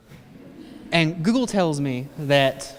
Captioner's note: laughter